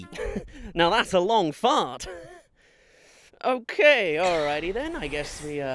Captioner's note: ahem